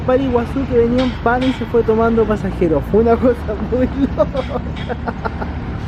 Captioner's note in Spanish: risas